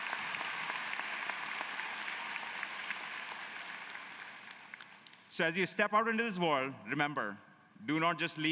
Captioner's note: cheers and applause